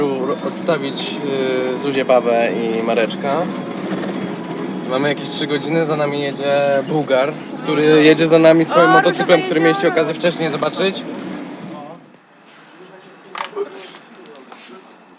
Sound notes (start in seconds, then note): 13.0 clink of dropped coin